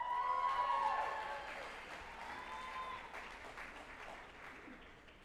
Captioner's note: group applauding and cheering